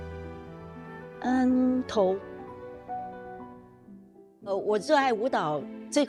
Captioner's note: speaking foreign language